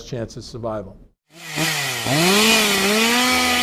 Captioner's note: sound of Chain Saw